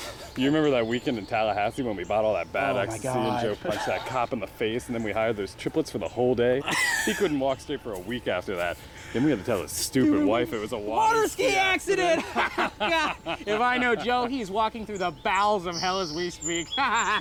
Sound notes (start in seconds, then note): 12.0 both laughing; 16.6 both laughing